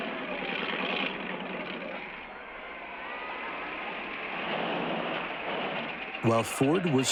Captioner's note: engine sputtering